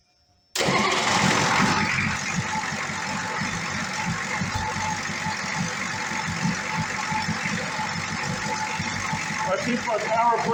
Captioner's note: engine starts & idles